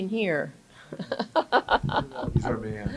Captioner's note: laughs